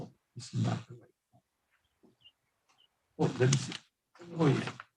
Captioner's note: faintly speaking